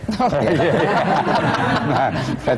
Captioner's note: laughter; laughs